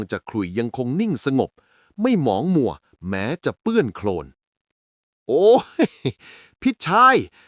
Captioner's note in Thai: เสียงหัวเราะ